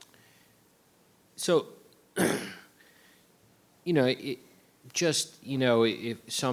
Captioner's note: clears throat